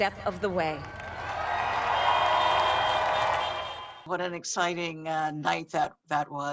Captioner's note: people cheering